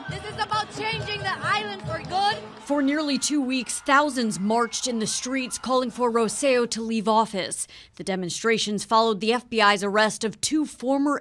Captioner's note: scream¢s/cheers